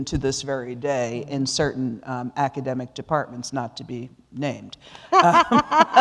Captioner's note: laughter